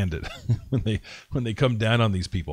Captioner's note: laughs